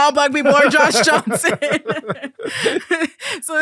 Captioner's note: both laughing